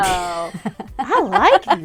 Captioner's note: laughs loudly